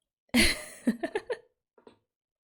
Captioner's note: laughs